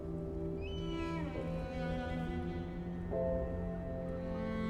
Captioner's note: bird screeches